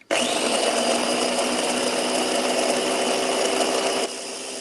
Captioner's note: blender whirling